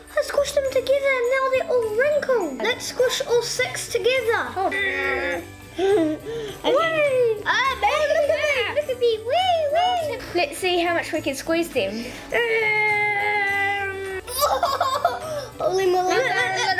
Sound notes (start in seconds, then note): 14.3 laughs